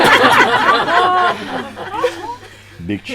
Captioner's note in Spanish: Risas